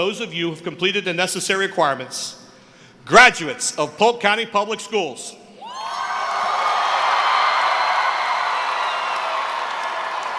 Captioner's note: cheering